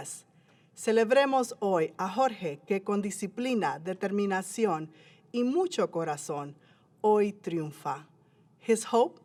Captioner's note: foreign language